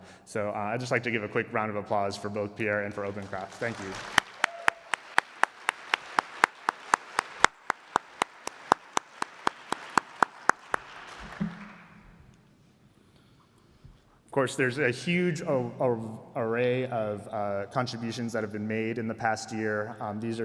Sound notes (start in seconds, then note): 6.1 applause